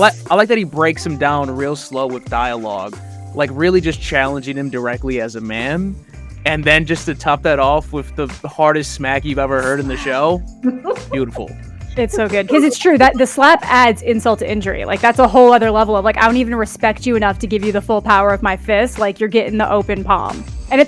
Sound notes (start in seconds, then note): 11.9 laughs